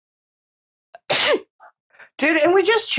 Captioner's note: sneezes